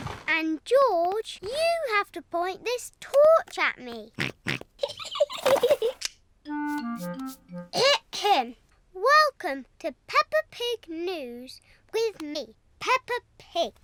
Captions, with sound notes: -And George, you have to point this torch at me. -(SNORTS) (GIGGLING) Ahem, welcome to Peppa Pig News with me, Peppa Pig.